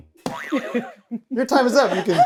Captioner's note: buzzer boing; laughing